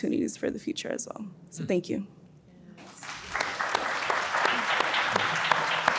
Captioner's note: audience applauds